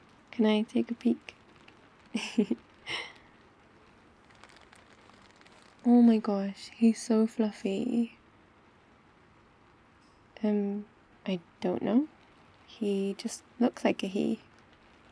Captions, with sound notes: can I take a peek? *laughs* *rustling bag* oh my gosh, he's so fluffy umm, I don't know... he just looks like a he